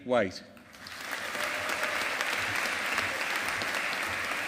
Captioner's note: audience applauding